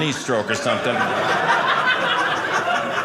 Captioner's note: audience laughing